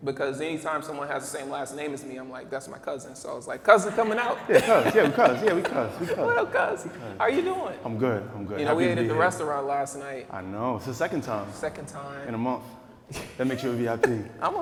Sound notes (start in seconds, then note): 3.7 laughing; 8.3 speaking quietly